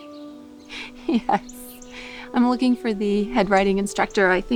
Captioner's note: laughs